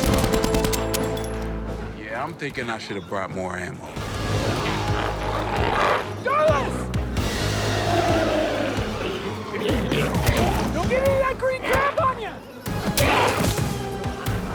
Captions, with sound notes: Yeah, I'm thinking I should have brought more ammo. - Darlus! (intense music) (glowzies growling) Don't get any of that green gunk on you! Hyah!